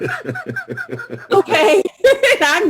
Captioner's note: laughter